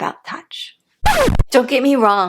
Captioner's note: record scratch